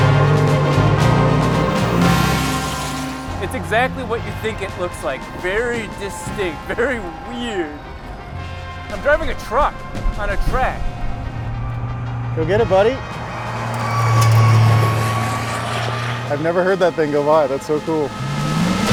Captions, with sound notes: It's exactly what you think it looks like, very distinct, very weird, I'm driving a truck on a track. - Go get it buddy. (truck engine roaring) I've never heard that thing go by, that's so cool.